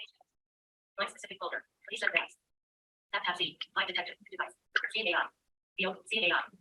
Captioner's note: iPhone talking in background